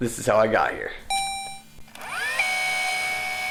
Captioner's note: robotic ding; tape rewinding